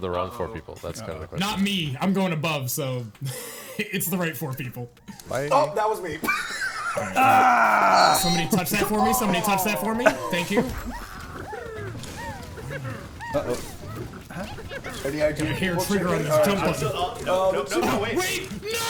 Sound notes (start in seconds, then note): 10.7 characters whooping